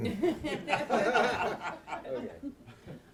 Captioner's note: laughter